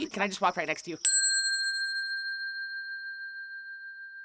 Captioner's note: bell dinging